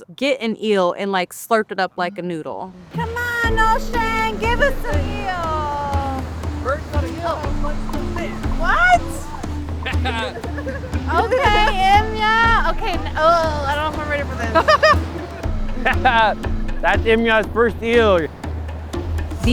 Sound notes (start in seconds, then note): 7.6 shouts and laughter